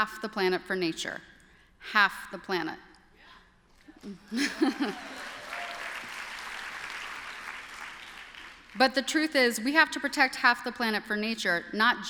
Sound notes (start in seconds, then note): 4.0 applause